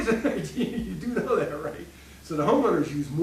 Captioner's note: laughing